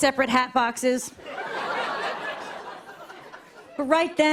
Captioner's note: laughter